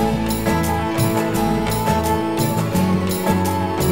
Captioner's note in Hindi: none